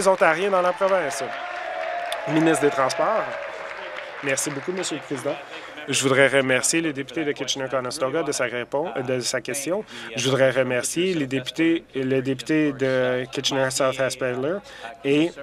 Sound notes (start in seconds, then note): 0.0 applause; 5.8 cheers